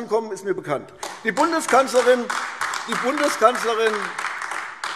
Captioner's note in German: Beifall AfD